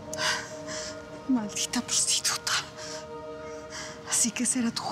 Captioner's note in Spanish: sollozos